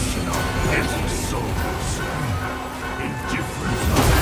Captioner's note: creature growling